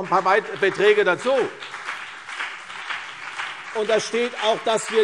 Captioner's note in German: Beifall CDU und BÜNDNIS 90/DIE GRÜNEN - Zurufe SPD